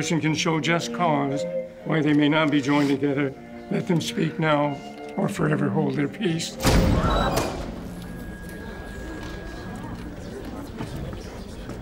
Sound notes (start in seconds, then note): 6.6 door opens